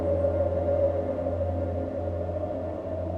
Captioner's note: wind howling